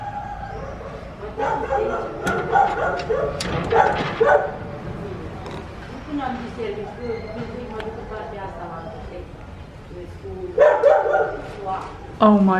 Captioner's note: street ambience